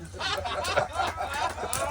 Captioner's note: laughing